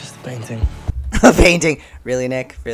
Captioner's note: laughs